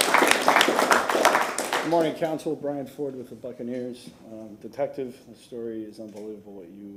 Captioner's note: applause